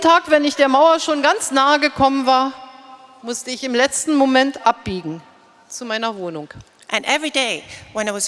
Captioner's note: speaking in German